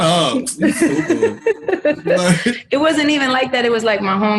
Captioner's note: laughs